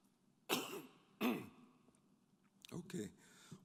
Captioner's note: coughing